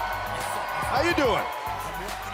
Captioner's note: cheers & applause